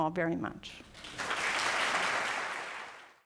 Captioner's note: audience clapping